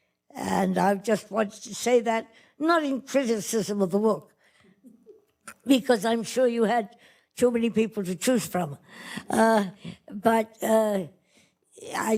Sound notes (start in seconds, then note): none